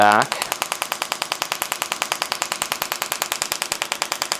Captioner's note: machine tapping